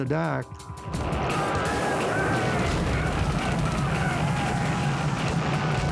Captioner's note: gunfire and men screaming